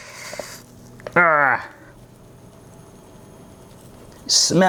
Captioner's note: grunts